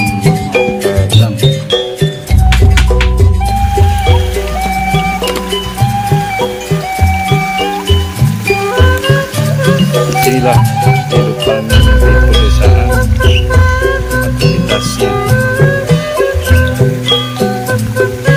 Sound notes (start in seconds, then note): 2.4 applause